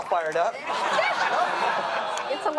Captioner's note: everyone laugh